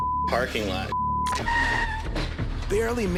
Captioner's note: tires screech